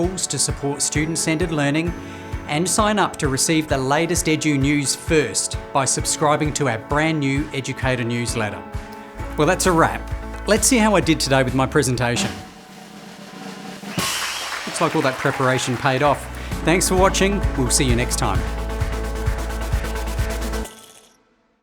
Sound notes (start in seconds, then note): 12.4 drum roll then cheers; 18.6 upbeat music